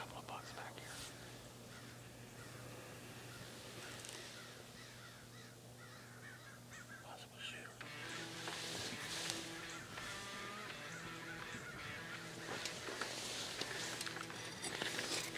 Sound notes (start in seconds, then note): 0.0 speaker 2 Whispering; 1.6 crows cawing; 1.9 wind whistling; 7.8 upbeat country music; 7.9 rustling; 14.4 metal scraping; 14.4 rustling